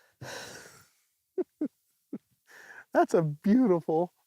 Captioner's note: giggles